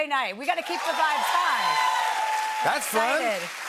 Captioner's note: cheers and applause